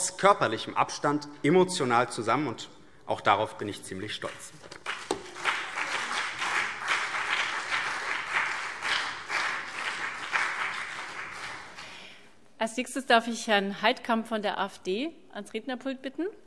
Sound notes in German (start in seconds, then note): 4.7 Beifall BÜNDNIS 90/DIE GRÜNEN und CDU